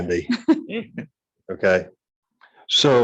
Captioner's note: laughing